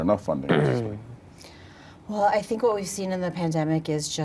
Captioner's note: clearing throat